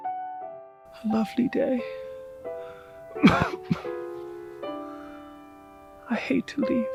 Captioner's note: coughs